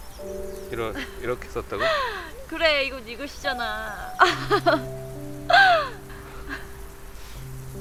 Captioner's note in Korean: 웃음